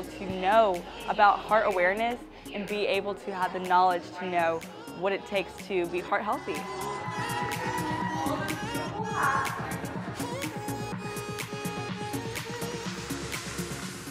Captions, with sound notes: to know about heart awareness and be able to have the knowledge to know what it takes to be heart healthy. (crowd cheering) (upbeat music continues)